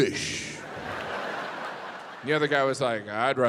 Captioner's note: audience laughs